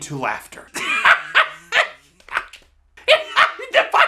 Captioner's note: laughs